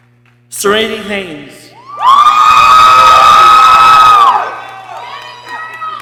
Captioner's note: people cheering